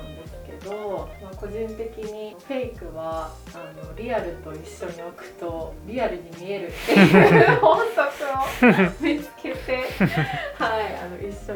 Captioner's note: laughs